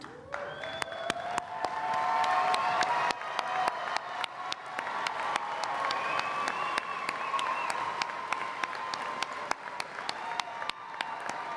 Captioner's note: applause